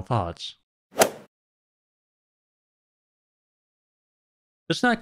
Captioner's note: golf ball hit sound